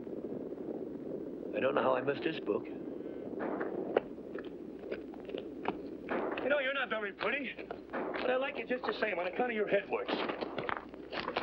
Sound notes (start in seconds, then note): 3.2 distant gunshots & hooves pounding